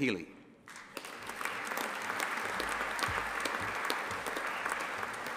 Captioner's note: audience applauding